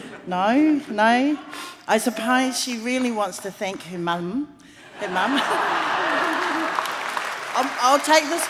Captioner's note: laughs